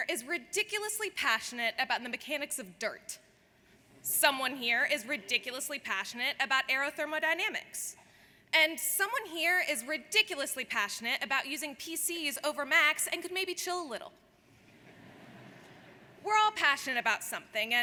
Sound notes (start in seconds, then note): 14.7 audience laughs